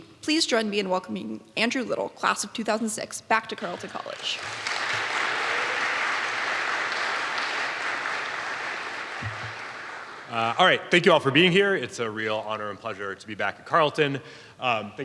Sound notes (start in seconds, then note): 3.6 audience applauding